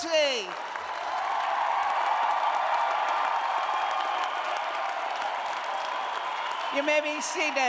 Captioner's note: cheers and applause